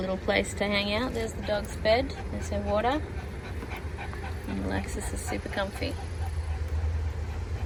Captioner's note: Ollie pants